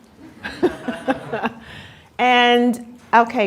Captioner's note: laughter